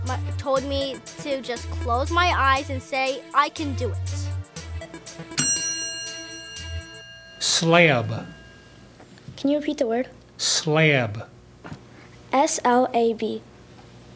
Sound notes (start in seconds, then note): 5.3 ding